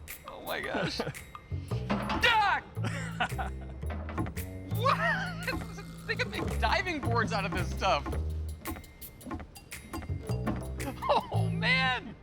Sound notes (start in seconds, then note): 0.6 chuckles; 1.9 shouts; 2.8 laughing; 2.8 laughs; 10.8 laughing